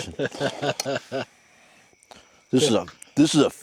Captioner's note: laughing